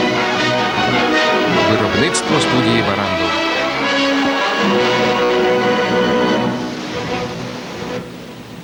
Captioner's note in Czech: hudba končí, zvuk odjíždějícího vlaku